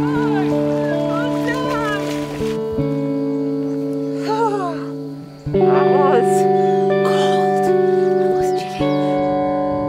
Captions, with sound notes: Good boy! Well done! (shivering) Oh, that was cold. That was chilly.